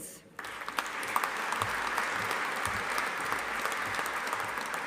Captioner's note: audience applauding